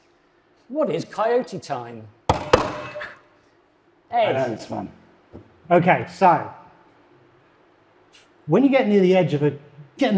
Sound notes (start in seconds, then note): 2.3 buzzers thudding